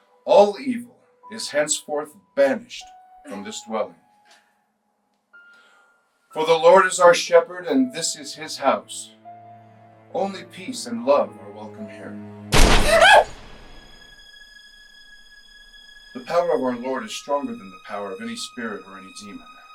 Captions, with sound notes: All evil is henceforth banished from this dwelling. For the Lord is our shepherd and this is his house. Only peace and love are welcome here. [distant thud] [Kathryn yelps] [suspenseful music] The power of our Lord is stronger than the power of any spirit or any demon.